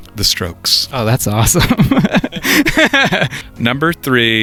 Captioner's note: laughing